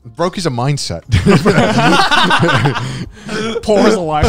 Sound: everyone laughs

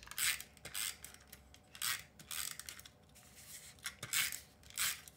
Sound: tape dispenser buzzing

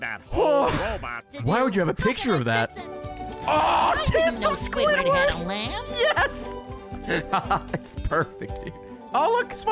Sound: laughs

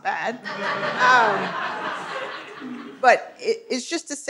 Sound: audience laughing

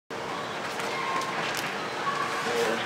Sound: fans chatting

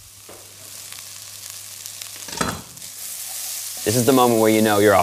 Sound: vegetables sizzling

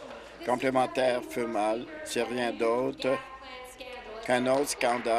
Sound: applause

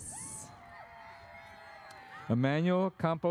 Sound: audience cheers

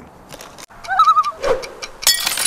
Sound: loon call

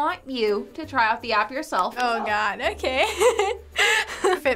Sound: laughs

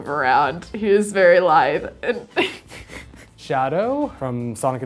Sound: laughs

